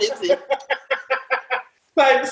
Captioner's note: laughter